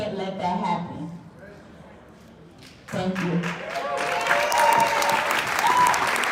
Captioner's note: clapping and cheering